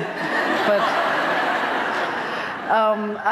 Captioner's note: laughter